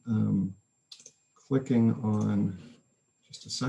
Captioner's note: mouse clicking